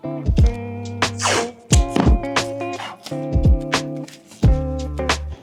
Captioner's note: tape ripping